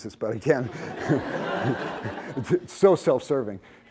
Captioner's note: laughter